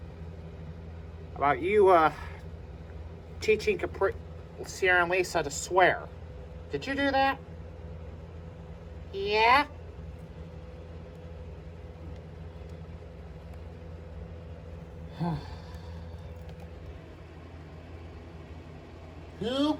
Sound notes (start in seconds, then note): 12.3 sighs